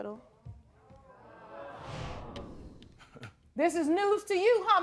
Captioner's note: audience murmuring